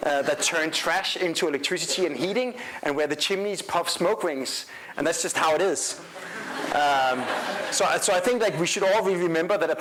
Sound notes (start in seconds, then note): 6.0 crowd laughing